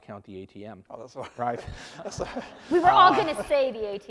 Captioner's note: laughing